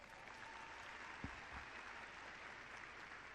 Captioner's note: clapping